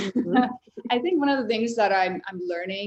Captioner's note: chuckles